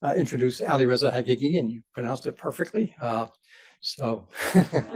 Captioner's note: laughs